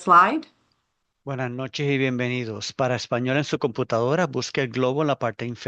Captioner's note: interpreter speaking Spanish